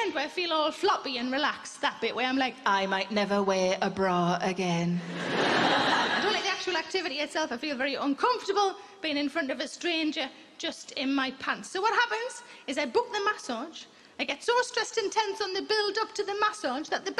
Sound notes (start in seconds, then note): 5.0 audience laughing